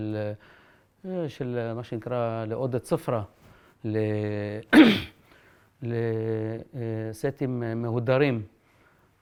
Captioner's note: in Arabic